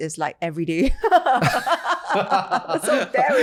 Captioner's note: laugh